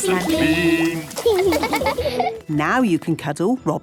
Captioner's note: laughing